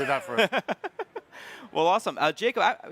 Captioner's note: chuckles